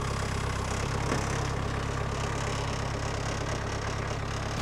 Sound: engine rumbling

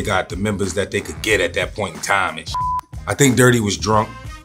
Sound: beeps

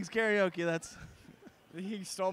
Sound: laughs

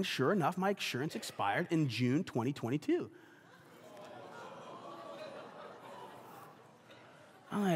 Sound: congregation laughs

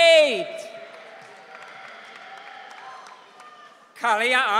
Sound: audience cheering

